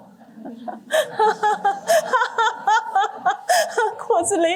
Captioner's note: laughter